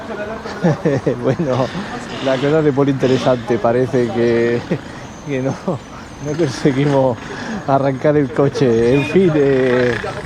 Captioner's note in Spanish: risas